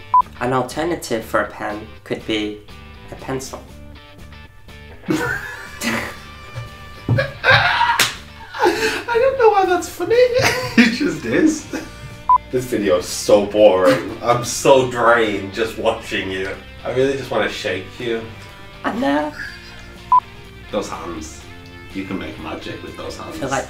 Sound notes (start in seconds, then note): 7.8 laughing